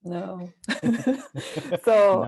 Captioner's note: laughs